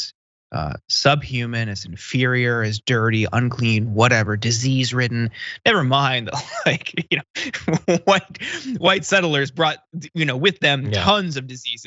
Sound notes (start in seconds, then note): 6.0 laugh